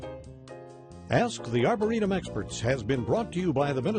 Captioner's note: voiceover